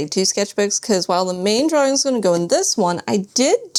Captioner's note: none